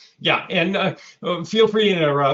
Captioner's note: laughs